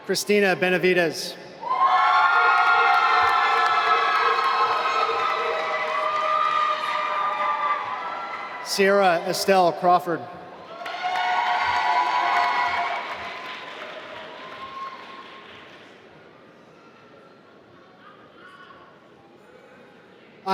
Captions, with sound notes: Krystina Benavides (applause) Ciera Estel Crawford (applause)